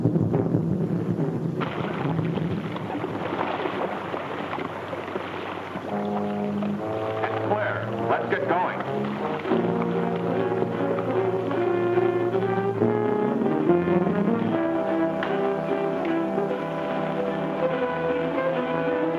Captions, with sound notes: (water splashes) (tense brooding music) It's clear. Let's get going. (dramatic music)